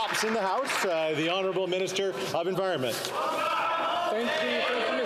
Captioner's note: some Applause